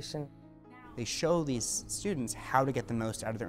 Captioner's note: voiceover